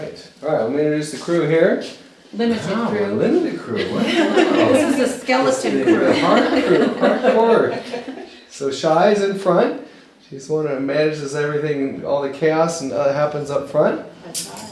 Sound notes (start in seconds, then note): 5.5 laughter